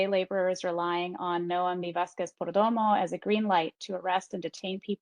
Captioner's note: speaking in Spanish